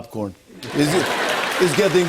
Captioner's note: laughter, applause